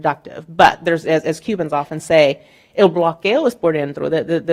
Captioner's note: speaking in Spanish